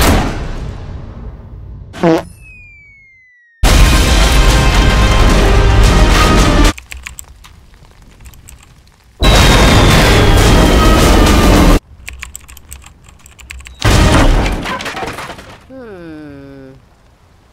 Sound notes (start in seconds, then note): 6.7 clicking on the keyboard; 12.0 clicking on the keyboard; 13.8 crash!